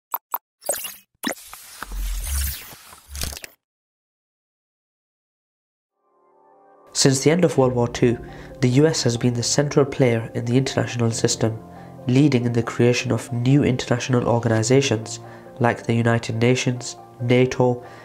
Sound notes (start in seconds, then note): 1.5 electronic whirring